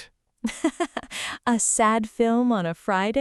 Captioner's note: laughs